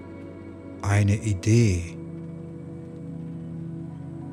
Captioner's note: german